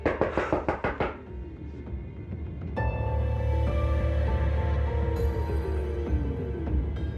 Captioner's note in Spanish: Toques en la puerta